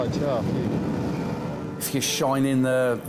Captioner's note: lifeboat engine whirring